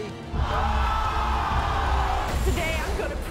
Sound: audience yells

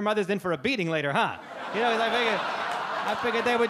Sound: audience laugh

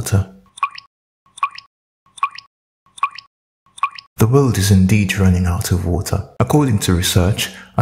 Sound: falling drops of water

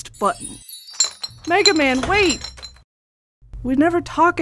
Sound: glass clinking

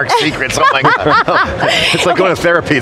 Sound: laughs

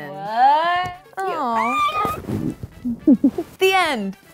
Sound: both giggle

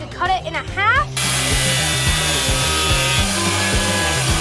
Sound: saw buzzing

